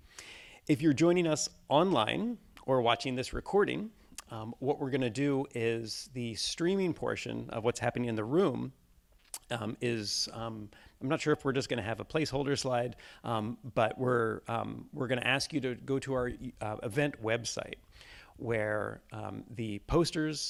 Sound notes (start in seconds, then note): none